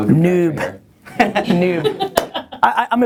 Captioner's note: laughter